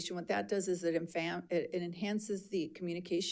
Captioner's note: none